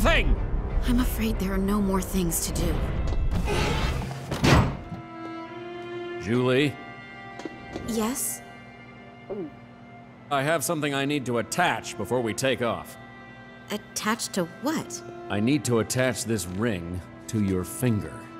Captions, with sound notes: I'm afraid there are no more things to do. [thudding] Zhu Li? Yes? [gulping] I have something I need to attach before we take off. Attach to what? I need to attach this ring to your finger.